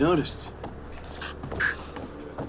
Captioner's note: Stanford inhales sharply